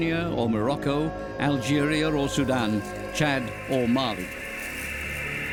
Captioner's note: locusts fluttering